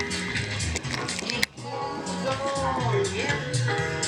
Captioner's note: clicking